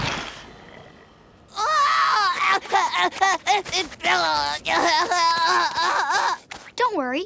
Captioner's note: groaning